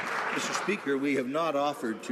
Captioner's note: some Applause